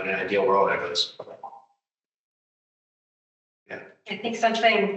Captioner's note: audio cutting out